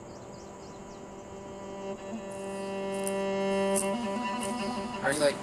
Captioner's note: nature sounds; meditative music